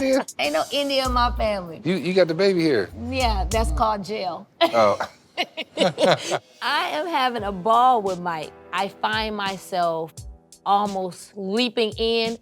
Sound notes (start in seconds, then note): 4.6 both laugh